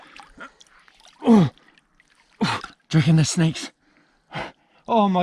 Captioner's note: groans